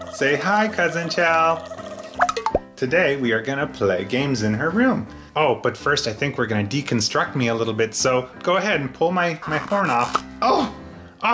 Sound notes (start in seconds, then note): 9.6 popping